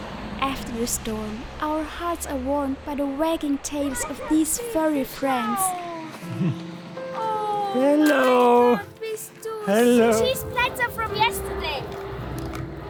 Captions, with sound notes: After the storm, our hearts are warmed by the wagging tails of these furry friends! Ooh you are so sweet! [in German] The cheese platter from yesterday.